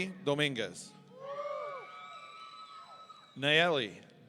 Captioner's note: audience cheering